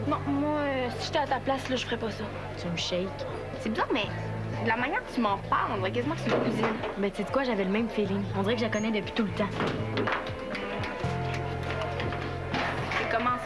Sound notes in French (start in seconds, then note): none